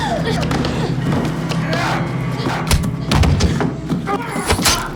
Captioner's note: Charlie grunting; Matt grunting; fabric ripping